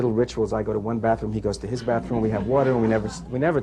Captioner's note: laughter